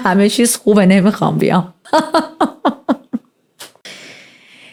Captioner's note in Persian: خنده